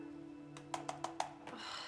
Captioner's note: mouse clicking rapidly; Candace sighs